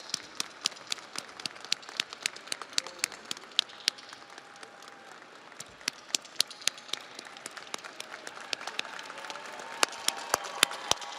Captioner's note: audience applauds